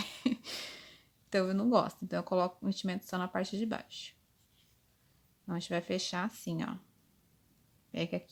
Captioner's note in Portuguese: risos